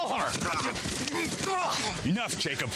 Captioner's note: Jacob grunting